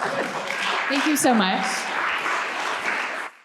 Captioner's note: crowd cheering; crowd clapping